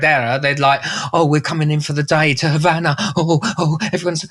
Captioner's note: scaredd voice